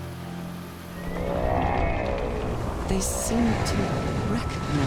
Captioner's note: groaning